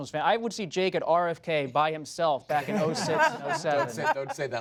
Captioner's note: laughter